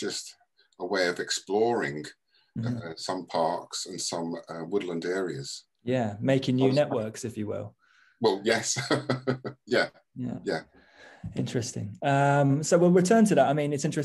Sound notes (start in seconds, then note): 8.7 laughing